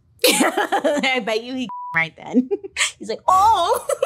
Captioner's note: laughs; beep; laughs